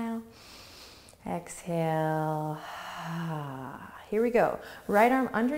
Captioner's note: exhales slowly